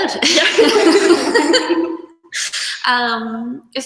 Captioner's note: both laugh